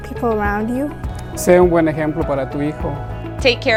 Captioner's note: speaking in foreign language